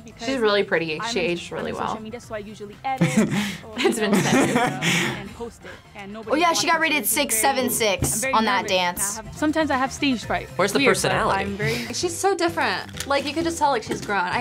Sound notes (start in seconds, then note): 3.8 laughs